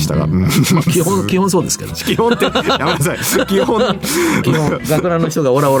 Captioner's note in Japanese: 笑い